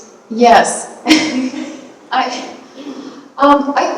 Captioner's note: chuckles